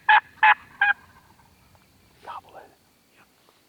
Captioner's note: turkey gobbling